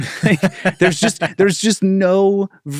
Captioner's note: laugh